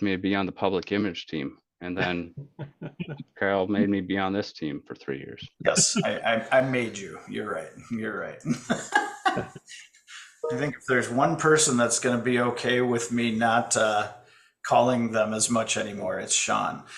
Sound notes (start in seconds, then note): 10.1 laughs